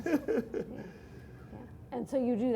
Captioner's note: laughter